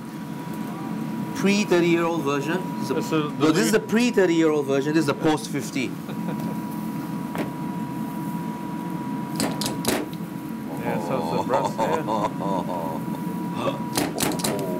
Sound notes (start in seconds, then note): 7.0 ambient kitchen sounds